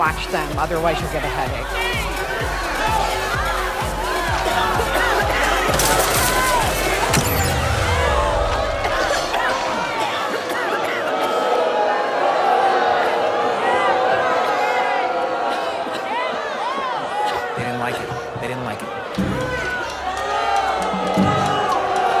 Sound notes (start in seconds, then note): 1.4 audience booing; 6.7 music stops; 9.0 audience coughing, booing; 19.1 tense music